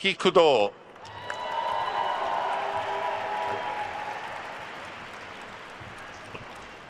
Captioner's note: attendees cheering and applauding